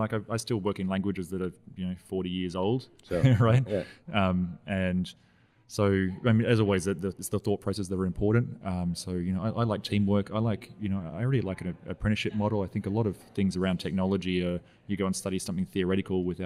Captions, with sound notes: Like I still work in languages that have forty years old. - That's old. - Right? (laughs) So, as always, it's the thought process that were important so you know, I like teamwork. I really like an apprenticeship model. I think a lot of things around technology, you go and study something theoretical